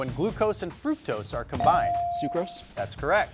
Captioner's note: bell dinging